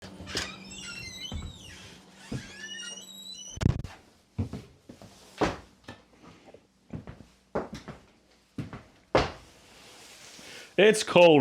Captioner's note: door opening in background